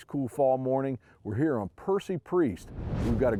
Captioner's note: graphics whooshing